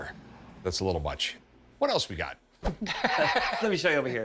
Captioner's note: laughs